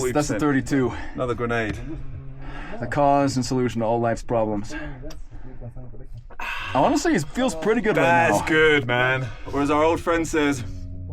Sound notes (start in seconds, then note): 6.3 sighs